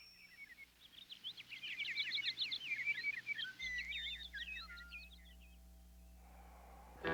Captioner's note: birds chirping